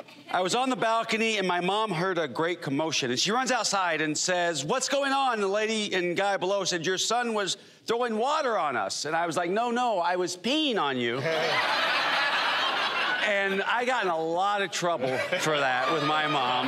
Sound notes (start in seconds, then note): 11.2 laughter